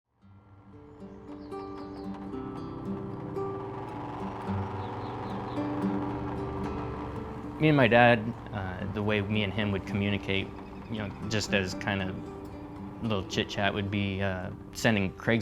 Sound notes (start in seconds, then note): 0.2 gentle guitar music; 3.8 truck engine running